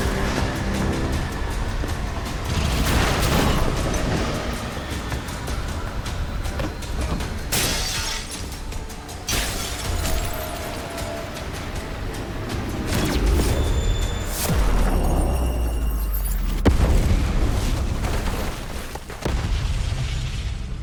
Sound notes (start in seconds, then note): 0.1 dramatic music; 2.4 gun blasting; 7.5 glass shattering; 9.0 dramatic music; 12.7 laser blasting; 17.5 explosion blasting